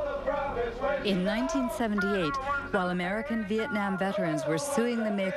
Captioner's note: protestation chants